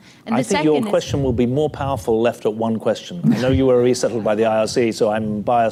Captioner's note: laughter